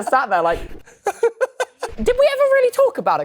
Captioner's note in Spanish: risas